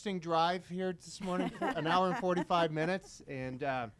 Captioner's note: board members laughing